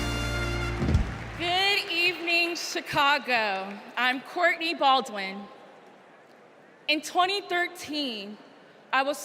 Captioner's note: cheers and applause